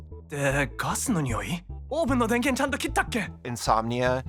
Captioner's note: speaking foreign language